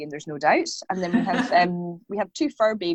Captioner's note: laughing